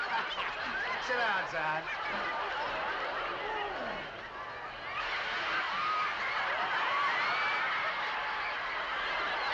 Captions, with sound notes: Sit down, son. ( laughter )